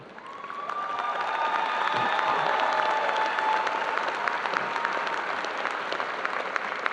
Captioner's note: audience applauding and cheering